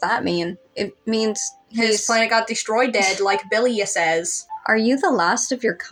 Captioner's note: snicker